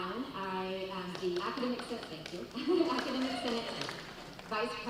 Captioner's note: audience clapping